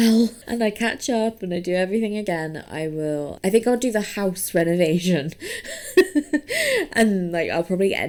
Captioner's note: laughs